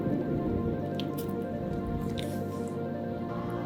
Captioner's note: water splashing